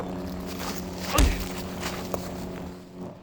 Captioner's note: grunts